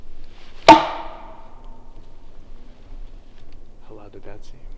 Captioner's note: wood knocks